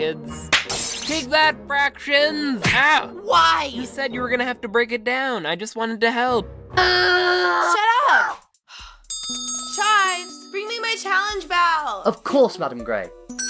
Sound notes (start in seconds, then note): 0.5 smack, electric noise; 2.6 punch; 7.0 thermos screams; 8.1 thermos yelps; 8.6 pepper sighs; 9.0 bell ringing sound